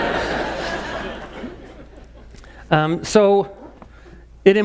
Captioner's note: laugh